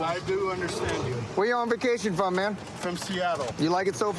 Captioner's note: none